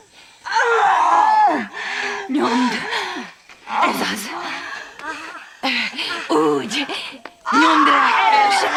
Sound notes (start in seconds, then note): 0.4 screaming, gasping